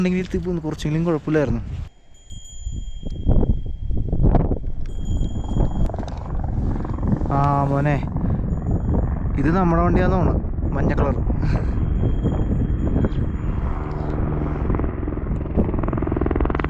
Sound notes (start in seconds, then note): 6.8 horse bell; 14.1 helicopter sound